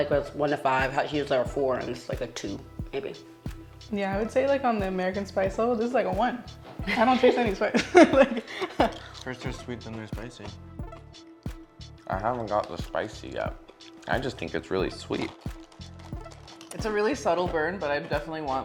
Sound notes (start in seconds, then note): 7.7 laughs